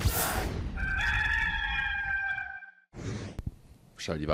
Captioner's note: rooster crowing